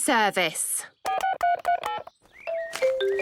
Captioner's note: phone beeping